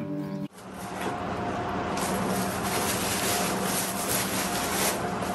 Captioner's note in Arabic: حفيف الورق